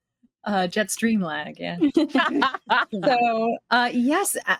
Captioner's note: cast members laughing